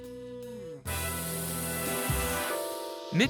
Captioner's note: gas hissing